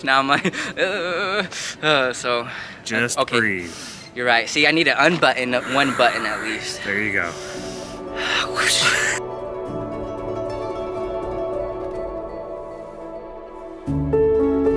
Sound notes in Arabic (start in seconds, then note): 5.4 يتنفس; 9.1 موسيقى صادقة